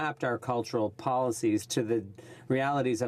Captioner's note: speaking French